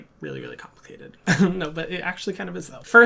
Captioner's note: chuckles